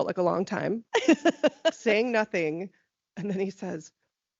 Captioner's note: laughing